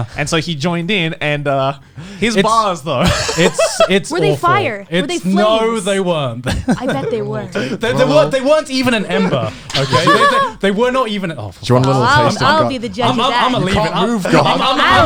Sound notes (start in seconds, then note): 3.0 laughs